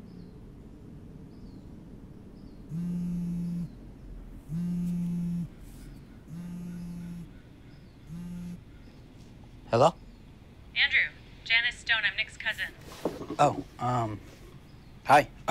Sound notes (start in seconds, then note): 2.9 phone rings